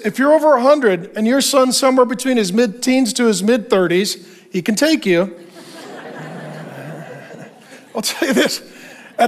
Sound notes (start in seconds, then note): 5.3 congregation laughing